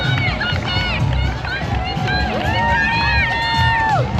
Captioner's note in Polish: Aplauz